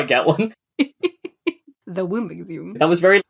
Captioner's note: laughs